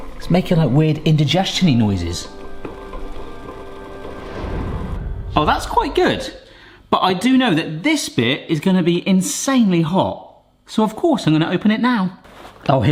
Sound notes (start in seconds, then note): 0.0 water gurgling; 2.8 water gurgling